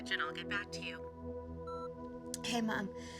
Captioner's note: voicemail beeps